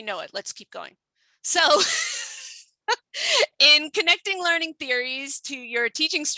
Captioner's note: laughs